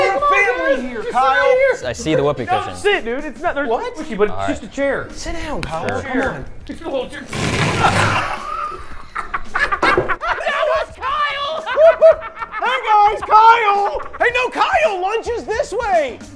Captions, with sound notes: Sit. Come on, man. We're family in here, Kyle. I see the whoopee cushion. No. Sit, dude. It's not-- What? It's squishy, but it's just a chair. Sit down, Kyle. Sure. Come on. It's a little-- [FARTING] [LAUGHTER] That was Kyle! Hoo-hoo! Hey, guys. Kyle-- hey-- no, Kyle, lunch is this way!